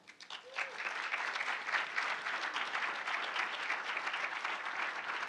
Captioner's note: audience applauding